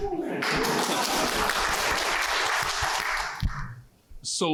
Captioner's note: applause